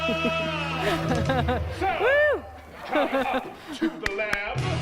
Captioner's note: laughing and cheering